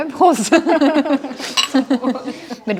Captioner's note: Gelächter